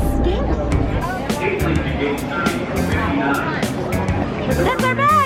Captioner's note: people chattering; upbeat music